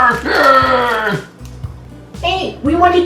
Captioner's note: nhom nhom